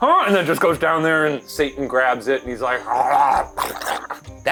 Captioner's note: growls